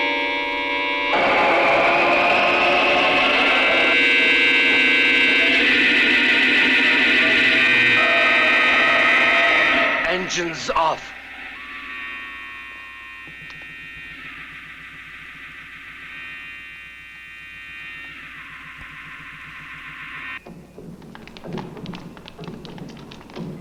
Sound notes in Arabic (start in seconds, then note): 0.3 هدير محرك الصاروخ; 12.7 هدير محرك الصاروخ; 20.4 صوت خطوات قوية